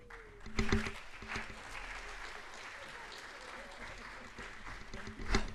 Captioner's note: audience applauds